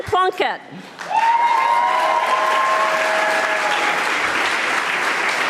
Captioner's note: audience applauding